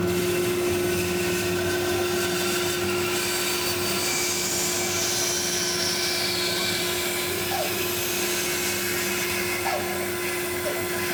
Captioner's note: bandsaw cutting